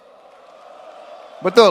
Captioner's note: crowd